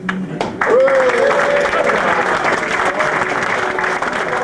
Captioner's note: audience claps